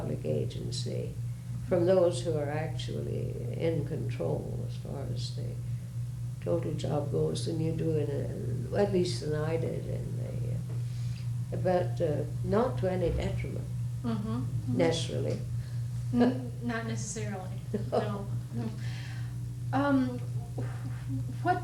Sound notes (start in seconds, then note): 17.6 laughs